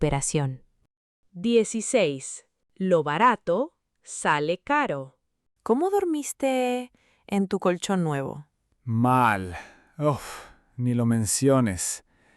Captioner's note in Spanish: suspiro